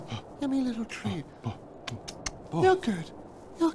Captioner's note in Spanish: besitos